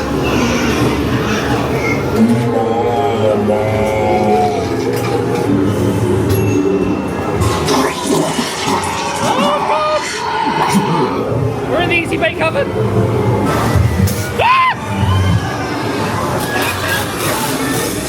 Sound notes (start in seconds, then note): 5.1 spooky music; 6.2 machine dings; 8.7 scareactor shrieks; 12.6 spooky music; 14.4 screaming; 15.3 spooky music